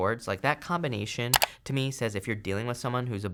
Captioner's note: click